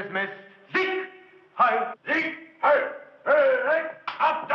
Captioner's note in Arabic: الصوت المنطوق باللغة الألمانية